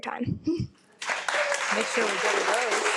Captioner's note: attendees applaud